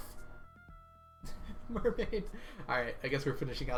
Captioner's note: laughs